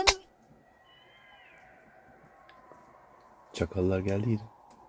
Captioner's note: howls of jackals